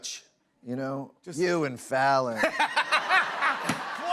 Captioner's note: laughter